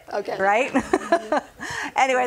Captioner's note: laughing